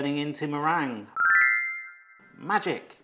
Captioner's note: magical bell pings